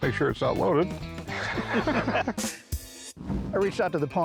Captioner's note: laughter